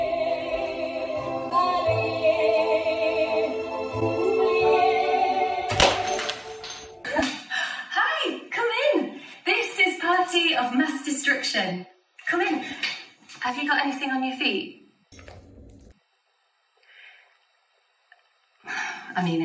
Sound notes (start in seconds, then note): 4.0 door closes; 5.6 glass smashes and music cuts